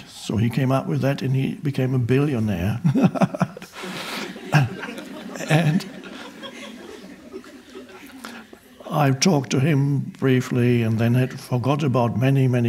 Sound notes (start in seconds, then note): 2.8 chuckling; 2.8 audience laughing